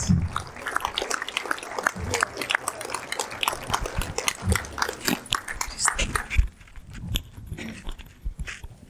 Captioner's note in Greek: χειροκρότημα